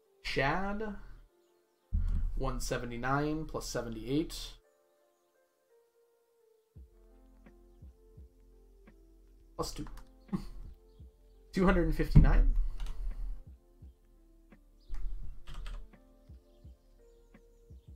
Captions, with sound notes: Shad 179 + 78... plus 2.... (chuckles) 259.